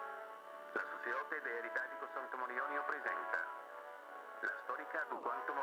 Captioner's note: speaking in foreign language